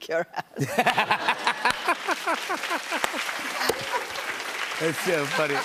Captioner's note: laughter and applause